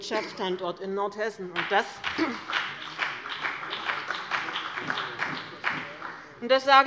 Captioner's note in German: Beifall bei dem BÜNDNIS 90/DIE GRÜNEN und der CDU